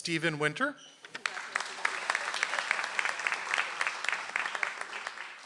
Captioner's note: audience applauds